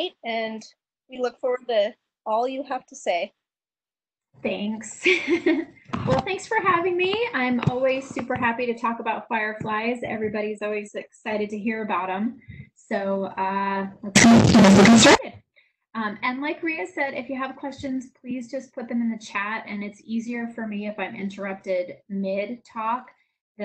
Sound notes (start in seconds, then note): 4.8 laughs